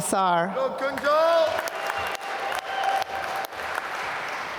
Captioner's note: applause